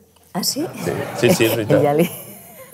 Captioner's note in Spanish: risas